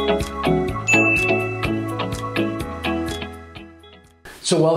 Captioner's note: bell chiming